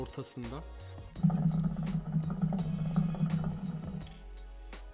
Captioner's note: hookah sound